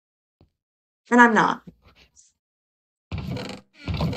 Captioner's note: laughs; whispering